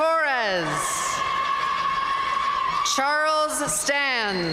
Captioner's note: audience cheering and applauding